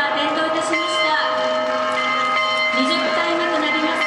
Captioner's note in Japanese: 拍手